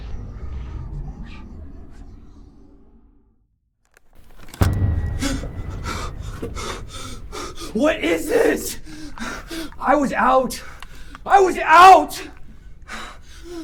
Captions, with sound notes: (demonic whispers) (camera clicks) (Pete panting) What is this? I was out.